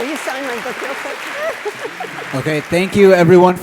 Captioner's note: faintly speaking